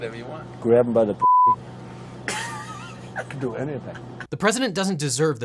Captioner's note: beep; laughter